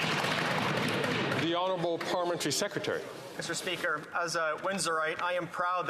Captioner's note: some Applause